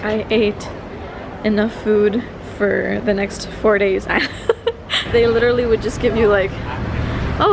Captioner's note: laugh